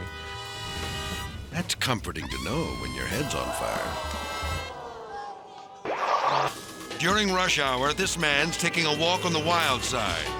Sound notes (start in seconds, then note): 5.9 logo whooshes